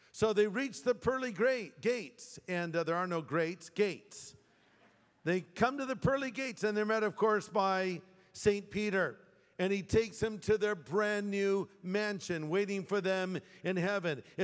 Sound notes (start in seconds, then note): 4.6 laughter